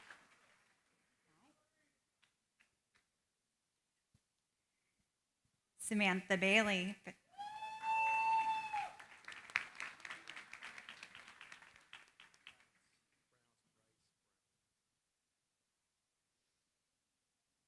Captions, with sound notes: Samantha Bailey. [CHEERING, APPLAUSE]